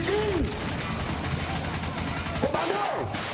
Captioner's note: gunfire